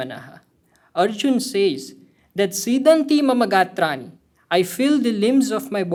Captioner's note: speaking hindi